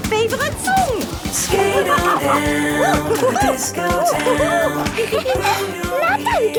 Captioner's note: laughing and exclaiming